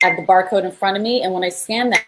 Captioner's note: beep